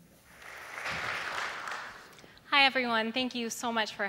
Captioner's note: applause